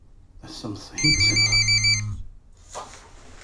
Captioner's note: phone ringing